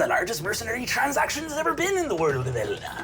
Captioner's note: none